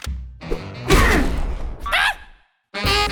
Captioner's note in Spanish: Bugsy y Arnold gruñen